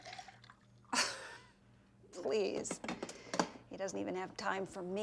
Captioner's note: chuckles